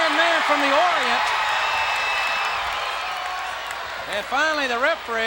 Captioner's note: audience cheers